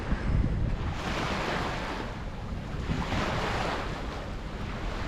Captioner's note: water sloshing